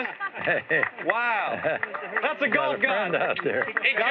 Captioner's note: chuckles